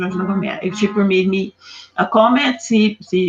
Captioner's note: strong accent